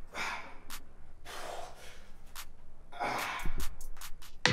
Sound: exhales; upbeat music

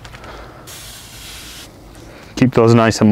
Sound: liquid sprays

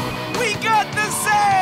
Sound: none

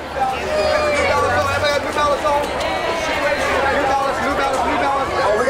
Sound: background chatter

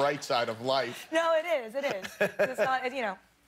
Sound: laughter

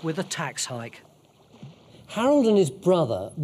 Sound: water whooshing

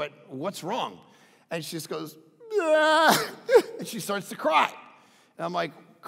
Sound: imitates crying

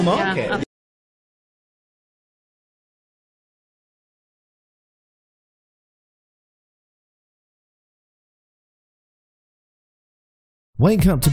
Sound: silence

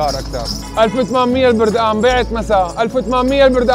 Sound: shouting

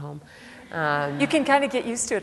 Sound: laughter

